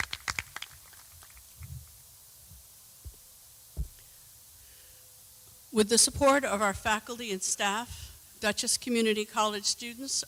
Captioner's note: applause